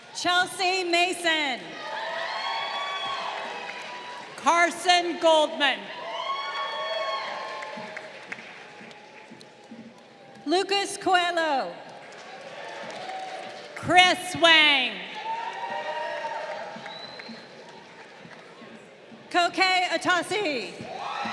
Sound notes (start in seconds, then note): 2.2 crowd cheering; 6.3 crowd cheering; 11.8 crowd applauding; 15.5 crowd cheering; 20.0 crowd cheering